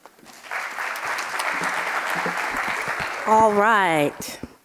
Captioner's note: audience clapping